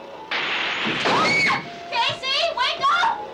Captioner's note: bed thuds; Marcia screams